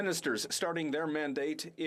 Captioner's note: speaking French